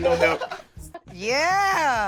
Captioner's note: laughter